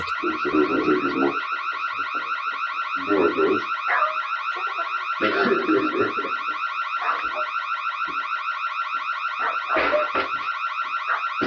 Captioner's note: car alarm goes off; car alarm continues; and other dogs barking